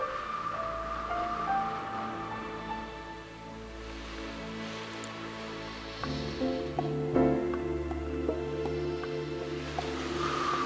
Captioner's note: exhale